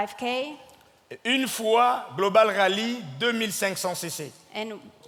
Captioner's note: speaking in French